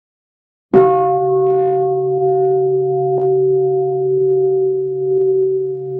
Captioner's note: bell